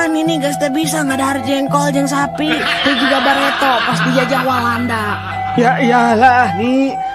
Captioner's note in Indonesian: tertawa